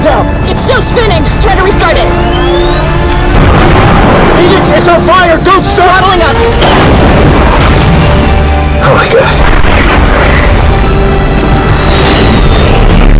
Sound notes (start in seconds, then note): 2.0 engine powers up